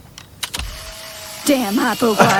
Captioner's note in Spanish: clic de la cámara